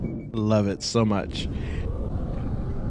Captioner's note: surprised inhale